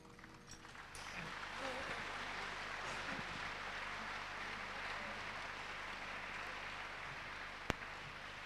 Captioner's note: claps